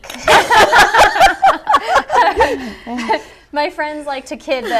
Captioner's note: laughter